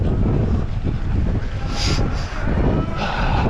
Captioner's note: wind blowing